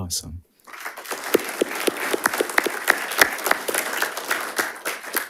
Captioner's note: audience applauding